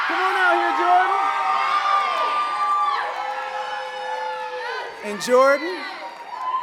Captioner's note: audience cheering and clapping